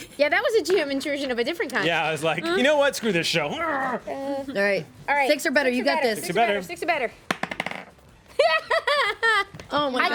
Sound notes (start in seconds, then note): 7.3 rolls dice; 8.3 woman laughs